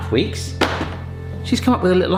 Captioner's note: chocolate clatters